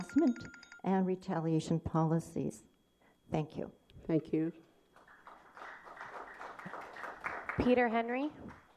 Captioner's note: applause